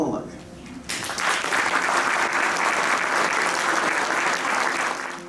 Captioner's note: applause